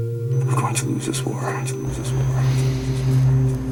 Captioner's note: echoes